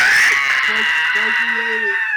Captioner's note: laughing